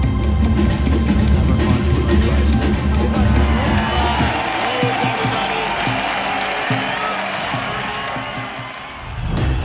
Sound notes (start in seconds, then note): 3.8 crowd cheering